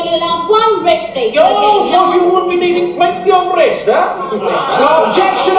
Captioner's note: Soviets laugh